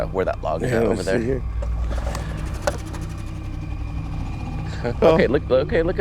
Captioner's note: boat engine revs